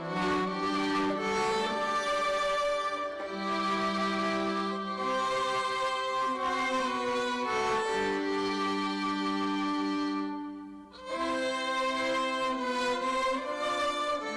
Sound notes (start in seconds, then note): none